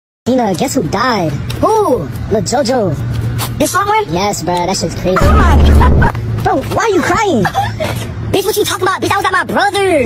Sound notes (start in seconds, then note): 7.4 sobbing